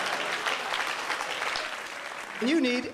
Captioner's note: applause